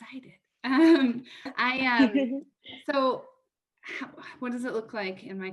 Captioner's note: laughter